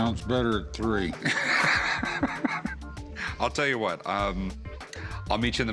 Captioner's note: laughs